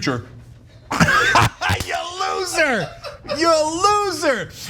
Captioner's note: laugh